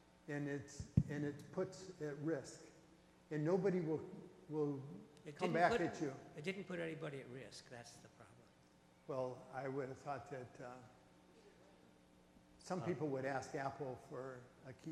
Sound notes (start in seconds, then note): 5.8 voiceover